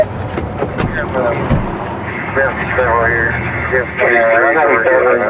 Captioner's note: radio ctter